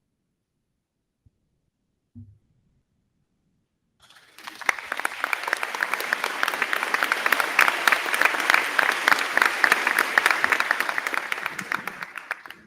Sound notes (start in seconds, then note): 4.0 crowd clapping; 4.1 crowd cheering